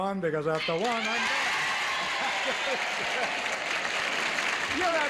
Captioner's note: audience cheers